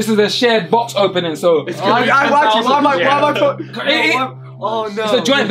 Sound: all chattering

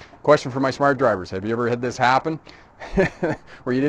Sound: chuckling

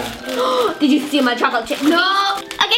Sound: gasps

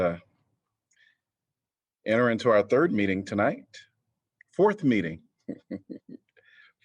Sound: laughter

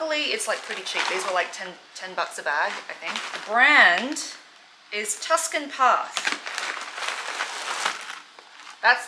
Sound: plastic noise

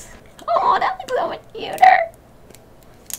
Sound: squawks

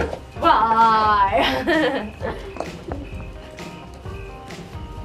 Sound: laughs

